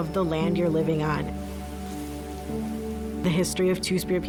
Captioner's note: wind brushes grass field